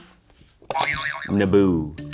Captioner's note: springing sound